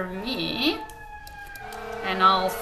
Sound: siren blaring

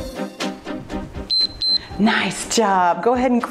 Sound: timer beeps

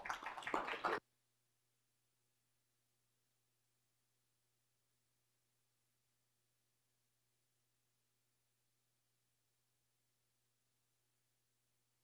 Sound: applause; audio cuts out

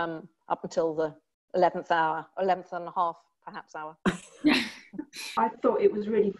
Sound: laughter

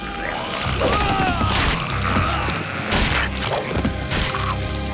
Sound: screaming

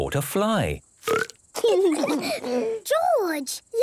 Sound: burps

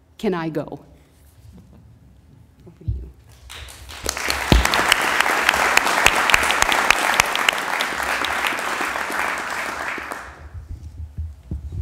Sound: applause

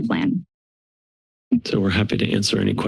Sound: silence

